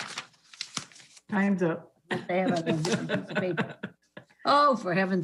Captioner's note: laughs